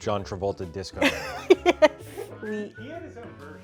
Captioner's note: laughs